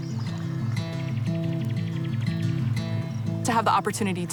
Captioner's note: birds singing